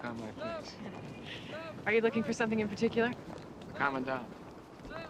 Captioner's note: chuckles